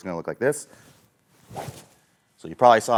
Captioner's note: golf club swings